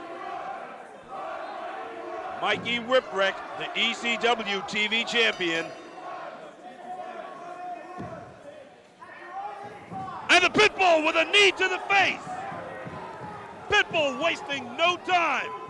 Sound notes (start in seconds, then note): 2.2 crowd cheering; 10.9 bell ringing; 12.4 crowd cheering